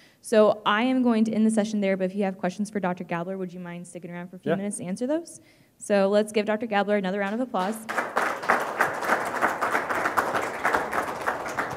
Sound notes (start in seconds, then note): 7.6 audience applauds